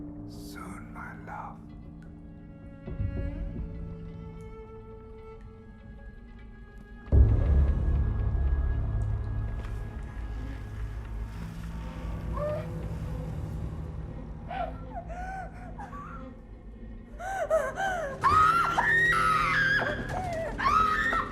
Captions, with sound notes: - Soon, my love. [ominous music] [woman crying] [woman screaming]